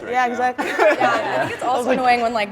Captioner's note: group laughing